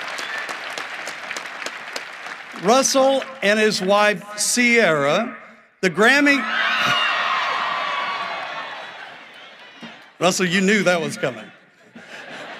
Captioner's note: cheering and applause